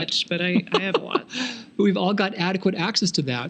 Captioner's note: laughing